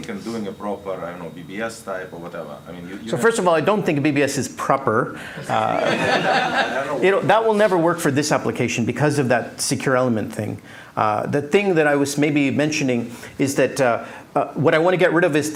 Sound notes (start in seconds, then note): 5.4 laughter